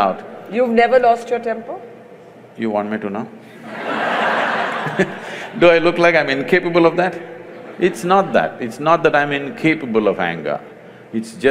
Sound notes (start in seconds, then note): 3.6 laughter; 3.8 laughs